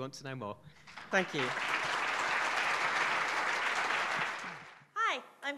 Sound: audience applauding

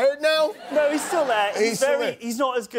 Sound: laughter

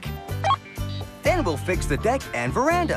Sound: beep

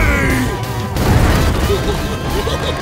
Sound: giggling

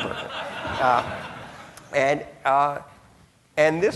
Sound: audience laughing

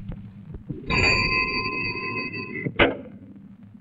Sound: cycle bell rings

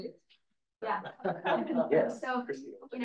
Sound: speakers laughs

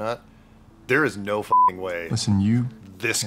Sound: beeping

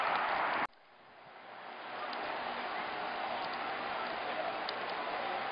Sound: machine buzzing

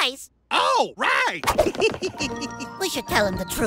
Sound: giggles

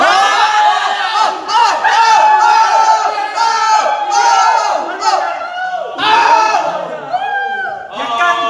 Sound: yelling

